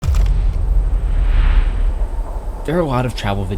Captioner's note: thumping; air whooshing